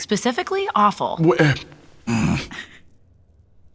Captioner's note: growls